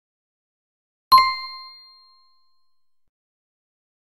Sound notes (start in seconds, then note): 1.1 sound of answer tone